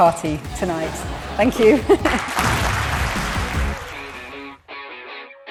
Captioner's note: audience applauding